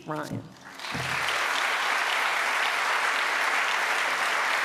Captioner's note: audience applauds